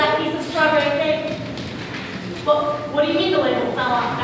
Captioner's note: whispering